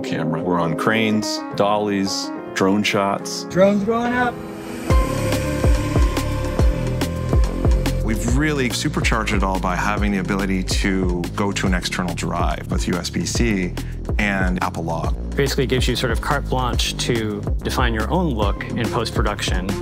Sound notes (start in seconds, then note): 4.2 propellers whirring